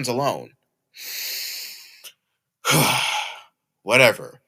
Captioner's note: Aaron takes a deep breath